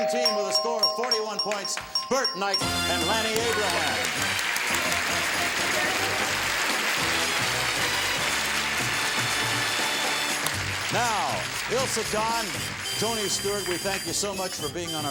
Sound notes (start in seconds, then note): 5.4 applause; 5.4 gameshow music